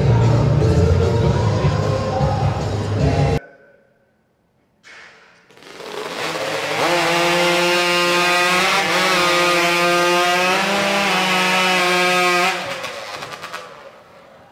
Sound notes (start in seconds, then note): 8.2 chainsaws buzzing